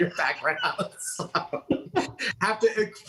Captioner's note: laughs